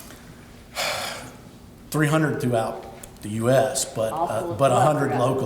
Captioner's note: sighs